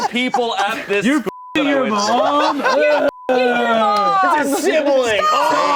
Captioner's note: beep